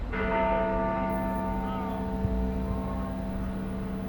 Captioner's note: bells toll